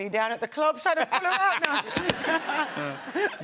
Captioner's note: laughter